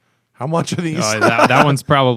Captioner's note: laughter